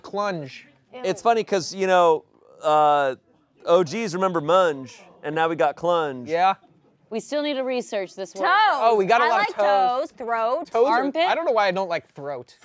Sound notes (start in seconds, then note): none